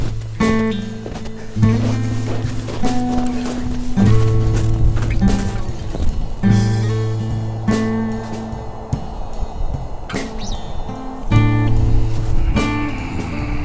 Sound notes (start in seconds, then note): 0.3 footsteps; 8.2 wind blows